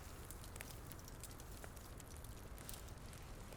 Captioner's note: fire crackling